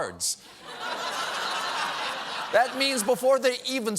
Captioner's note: laughter